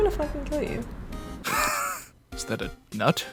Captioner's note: wheeze